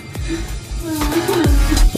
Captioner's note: laughs